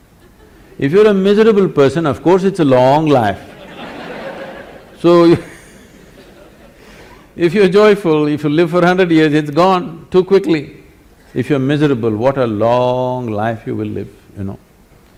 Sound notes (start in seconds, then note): 3.4 laughter; 5.2 laughs